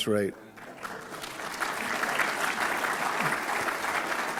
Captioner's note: audience claps